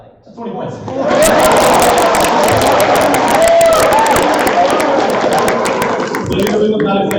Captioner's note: applause and laughter